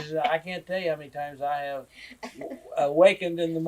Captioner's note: laughs